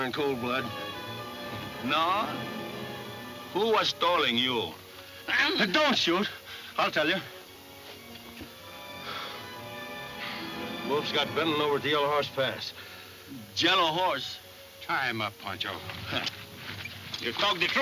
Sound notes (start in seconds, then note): 7.0 sighing